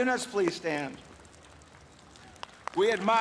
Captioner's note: applause